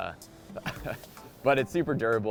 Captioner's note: chuckles